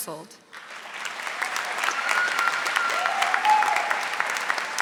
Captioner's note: audience applauding